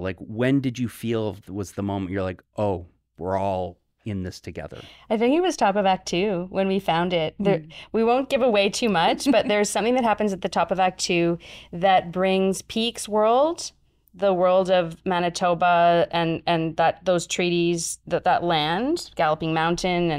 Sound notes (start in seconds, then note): 9.6 chuckles